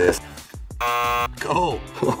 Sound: buzzer

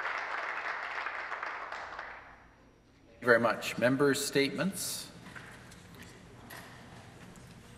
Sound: some applause

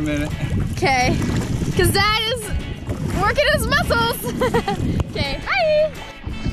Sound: laugh

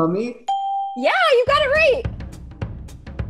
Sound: ding; upbeat interlude

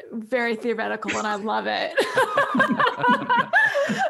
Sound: laughs

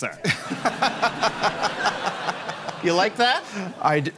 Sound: laughs

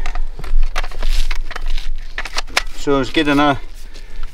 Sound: snaps batteries into place

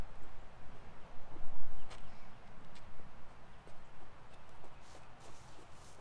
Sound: footsteps

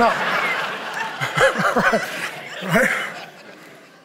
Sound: congregation laughing

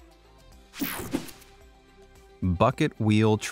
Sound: air whooshing

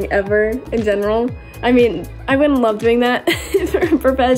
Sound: laughs

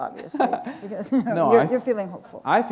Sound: laughter

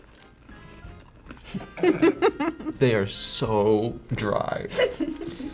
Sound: laughs

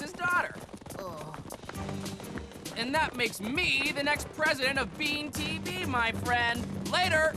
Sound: groaning

